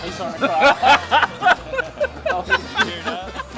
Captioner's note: laughs